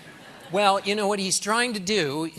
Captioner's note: laughter